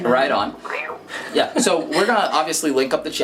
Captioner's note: imitating cat hissing